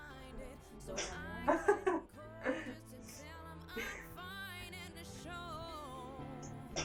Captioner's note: laughing